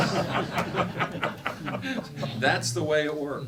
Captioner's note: laughing